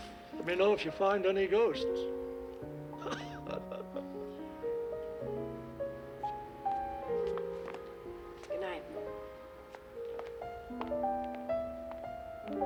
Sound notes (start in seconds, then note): 3.0 laughing